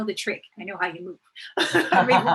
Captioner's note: both laugh